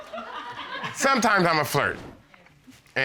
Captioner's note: audience laughing